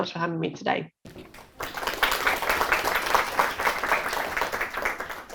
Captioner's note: applause